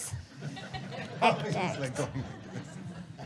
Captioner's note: audience laughter